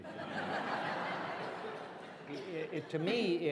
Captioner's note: laughter